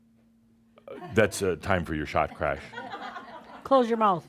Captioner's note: some chuckles